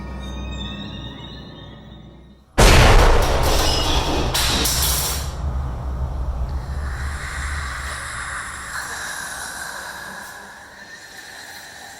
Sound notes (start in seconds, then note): 2.7 drawer thuds; 2.7 ominous music; 3.2 knife clatters; 5.4 eerie whispering tones